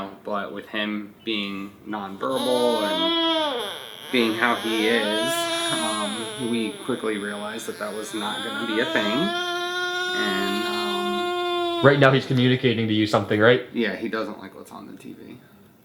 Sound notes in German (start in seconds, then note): 5.8 gurrt; 9.7 DJ weint